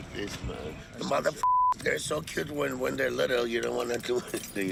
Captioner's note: beep